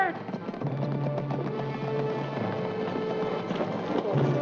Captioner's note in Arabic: ضربات حوافر; موسيقى درامية